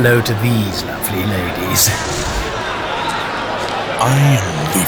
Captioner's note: footsteps moving through raucous party sounds